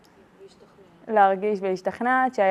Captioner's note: interviewer speaks in Hebrew; speaking in Hebrew